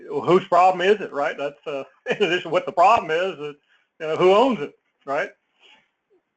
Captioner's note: laugh